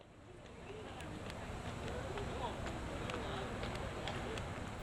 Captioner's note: people chattering